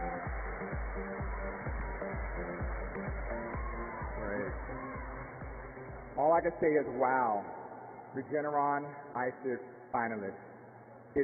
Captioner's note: applause